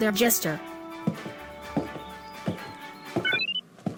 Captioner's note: footsteps